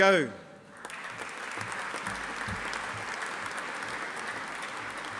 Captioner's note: audience applauding